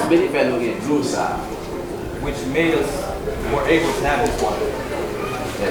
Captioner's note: speaking in foreign language